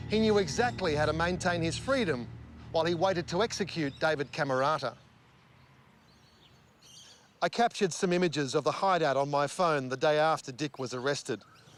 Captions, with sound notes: He knew exactly how to maintain his freedom while he waited to execute David Cammarata. (birds chirping) I captured some images of the hideout on my phone, the day after Dick was arrested.